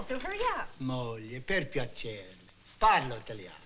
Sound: speaking italian

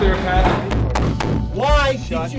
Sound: hand banging

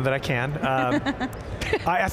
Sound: chuckle

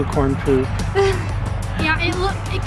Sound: laughs

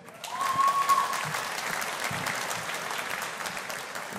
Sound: audience applauding

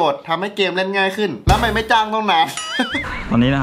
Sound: chuckles; pat

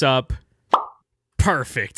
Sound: pop

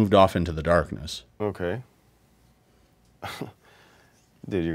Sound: laughs

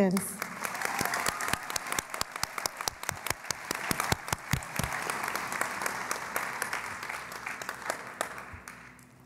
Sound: cheering and Applause

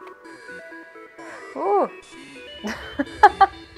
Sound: mysterious electronic music; laughing

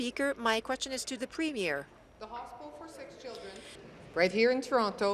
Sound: speaking in French

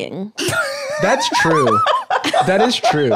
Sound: laughs

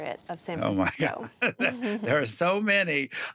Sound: laughter

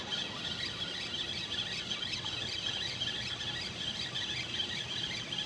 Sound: fishing reel zipping

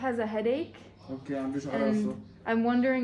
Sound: Arabic

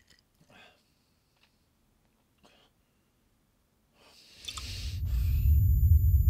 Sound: electronic music stops; radio clicks

